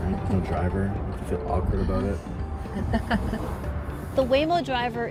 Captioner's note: chuckles